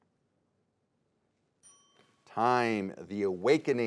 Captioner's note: timer dings